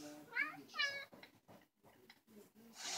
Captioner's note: rrou, meow